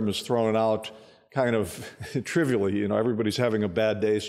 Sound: chuckling

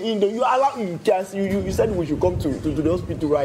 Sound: speaking in foreign language

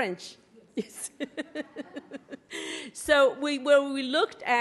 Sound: laughs

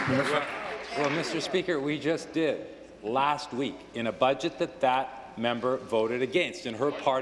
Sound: applause

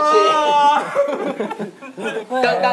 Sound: laughing

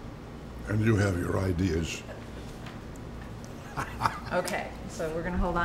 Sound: laughs

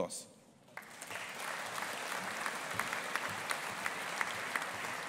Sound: audience applauding

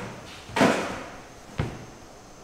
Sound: thud

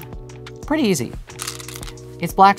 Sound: stones rattling

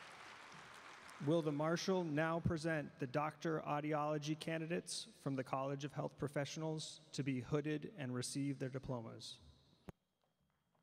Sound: cheering and Applause

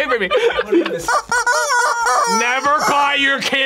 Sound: chickens squealing

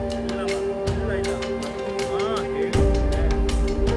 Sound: Parashuram talking over phone

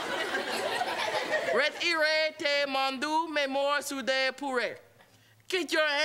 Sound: speaking French

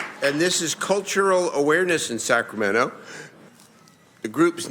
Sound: applause

